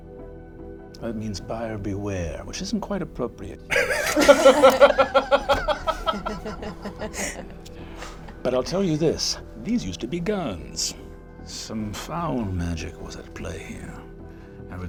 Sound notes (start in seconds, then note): 3.7 all laugh